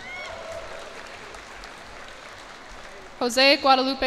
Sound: cheers and applause

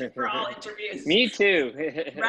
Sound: chuckles

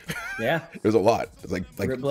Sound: laugh

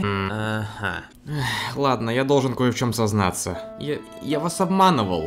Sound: sigh

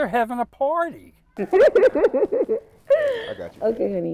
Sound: laughing

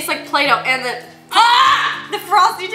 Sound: gags

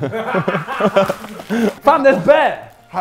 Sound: Sidemen laughing; laughs

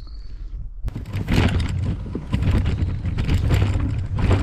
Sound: wheels scraping

